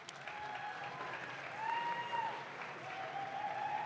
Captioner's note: audience claps